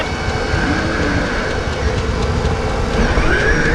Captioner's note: motor running